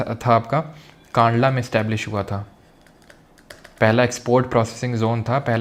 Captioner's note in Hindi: नाक से की जाने वाली आवाज़